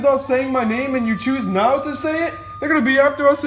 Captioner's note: sirens wailing